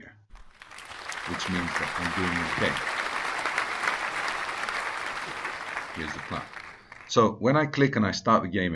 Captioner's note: applause